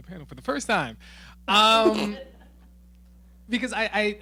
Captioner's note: laughing